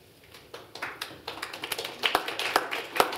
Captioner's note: applause